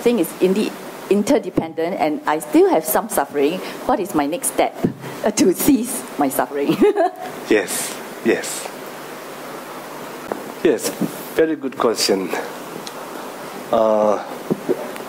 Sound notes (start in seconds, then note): 6.6 laughing